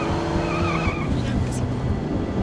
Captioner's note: Alejandra mutters